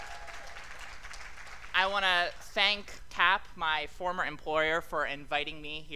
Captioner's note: applause